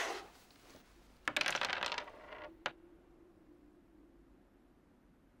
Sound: dice clattering

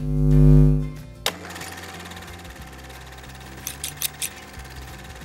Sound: lights buzzing; camera reel clicking; scissors snipping

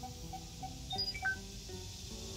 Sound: beeping stops

